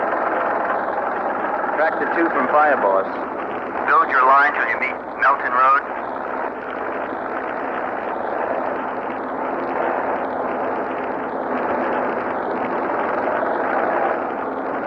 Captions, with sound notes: [radio] Sector 2 from Fire Boss: Build your line until you meet Milton Road.